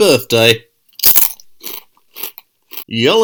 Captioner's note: crunch